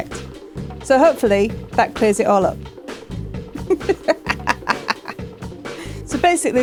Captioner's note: laughing